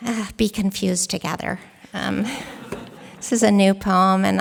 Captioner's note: laughter